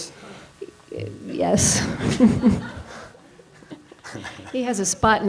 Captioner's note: laughs; audience members laugh